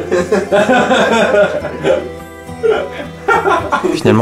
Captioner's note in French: rires